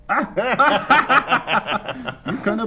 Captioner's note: Boink And Mayor Laughing